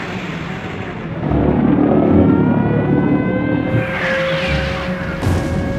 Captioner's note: V-1 engine roaring; V-1's exploding